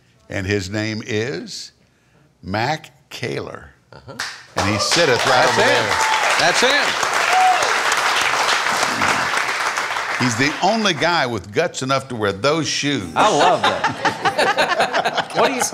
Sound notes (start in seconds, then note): 4.5 loud applause; 13.2 laughing